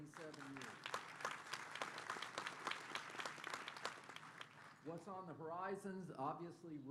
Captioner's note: applause